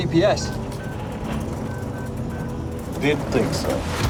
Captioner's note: GPS beeps